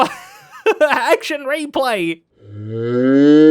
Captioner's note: laughs